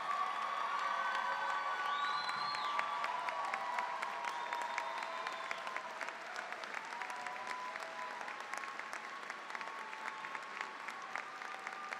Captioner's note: cheering, applause